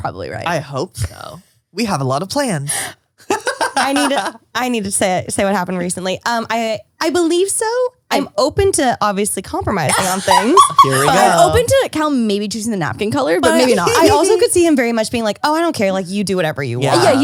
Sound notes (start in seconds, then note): 3.3 laughs; 9.8 laughs